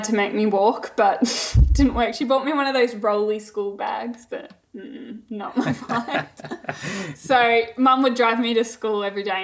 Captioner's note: both laughing